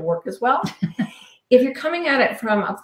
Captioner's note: laughing